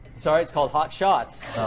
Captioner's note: laughter